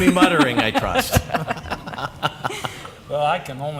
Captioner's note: laughter